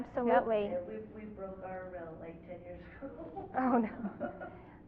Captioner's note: laughter